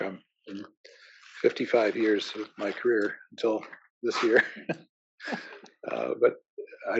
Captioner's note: laugh